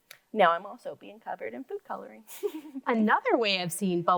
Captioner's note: laughs